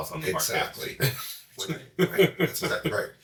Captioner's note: chuckling